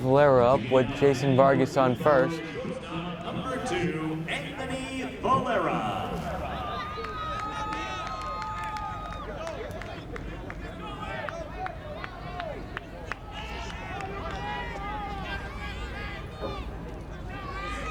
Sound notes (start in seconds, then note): 8.1 crowd cheers and applauds; 14.8 fans yelling